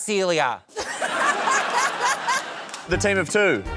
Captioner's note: laughs